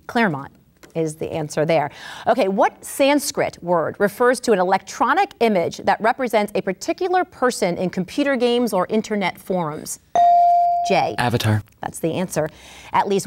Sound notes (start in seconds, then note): 10.1 ding